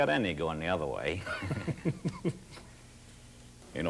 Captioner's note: men laugh